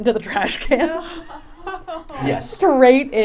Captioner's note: laughing